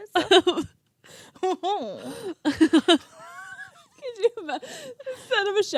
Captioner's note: laughing